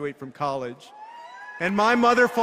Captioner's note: cheers